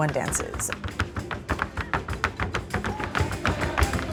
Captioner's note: feet tapping